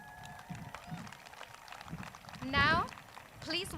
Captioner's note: crowd cheers